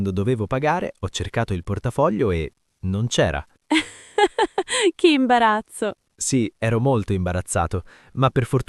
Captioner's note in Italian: risate